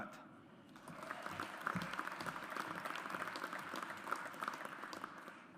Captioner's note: audience applauds